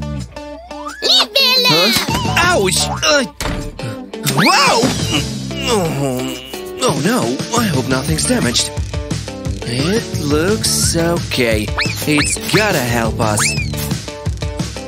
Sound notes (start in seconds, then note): 5.5 moaning